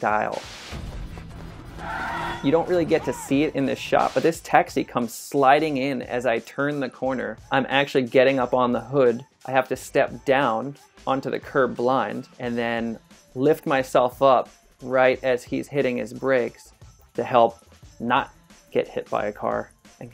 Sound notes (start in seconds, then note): 0.3 static noise; 1.1 car horn; 1.5 tire screech